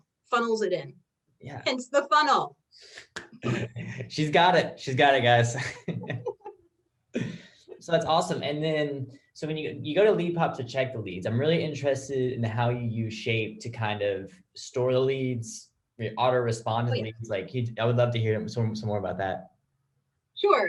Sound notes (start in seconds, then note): 5.4 chuckles